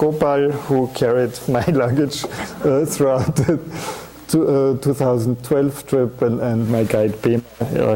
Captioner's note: chuckling